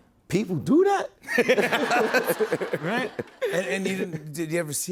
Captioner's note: laughter